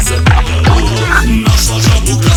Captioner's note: croak!